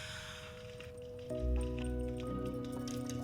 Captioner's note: paws clicking on floor